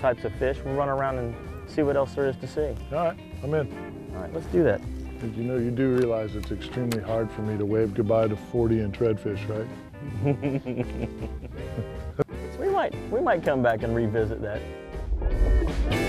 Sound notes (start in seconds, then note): 10.0 laughter